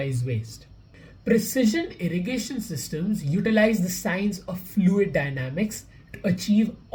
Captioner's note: voice-over